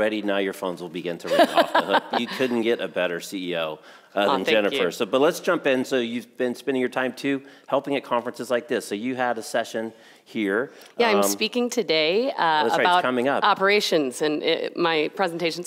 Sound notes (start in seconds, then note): 1.3 laughs